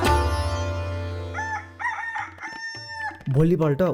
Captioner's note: clucking sound